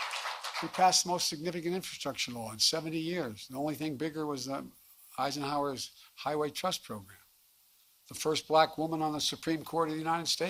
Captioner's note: applause